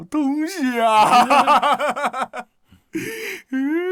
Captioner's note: mocking laugh